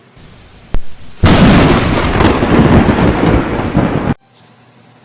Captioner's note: thunder